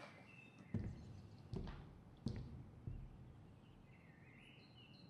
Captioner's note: footsteps approaching